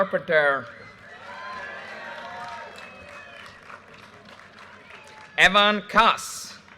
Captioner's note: audience cheers and applause